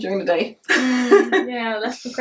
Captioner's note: chuckles